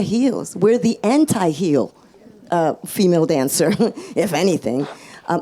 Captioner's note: chuckles